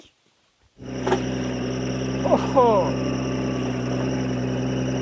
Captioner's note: vehicle rumbling